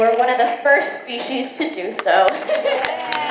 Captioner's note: laughs; audience claps and cheers